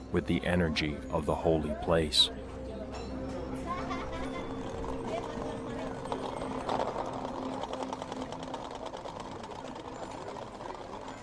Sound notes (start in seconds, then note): 3.7 visitor laughs; 5.3 visitor speaking in foreign language; 6.9 wheels rattling